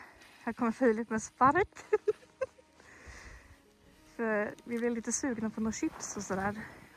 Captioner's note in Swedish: skratt